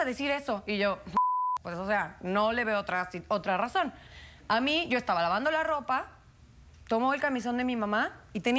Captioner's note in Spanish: Bip